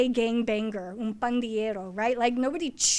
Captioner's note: foreign language